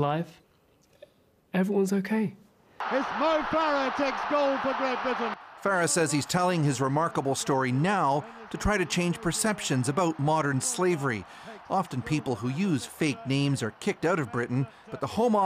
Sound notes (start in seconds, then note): 0.2 speaking alternate language